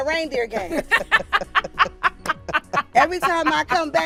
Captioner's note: laughing